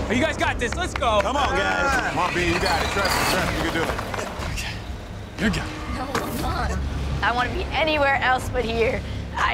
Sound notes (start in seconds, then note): 0.4 hands clapping; 2.1 cement truck rumbling